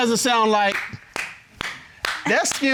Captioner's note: clapping